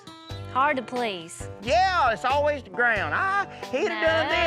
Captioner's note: imitates female's voice